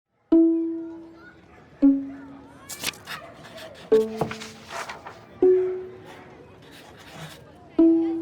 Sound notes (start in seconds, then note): 0.5 kids yelling; 1.7 light music; 1.9 dog barking; 2.7 pen scratching